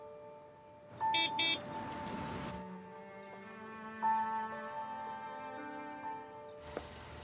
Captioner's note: hopeful music; horn beeping